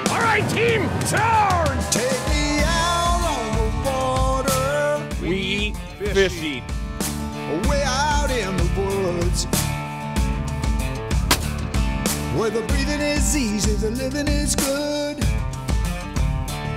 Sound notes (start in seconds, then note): 0.0 upbeat music; 8.5 gunshot